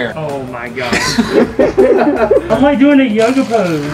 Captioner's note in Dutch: Gelach